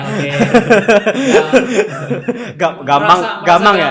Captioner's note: laughter